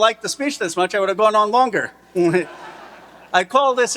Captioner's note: chuckles